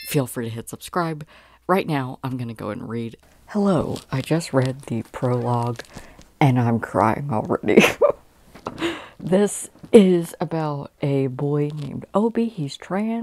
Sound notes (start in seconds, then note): 7.8 laughing